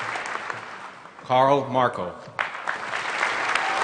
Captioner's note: applause; applause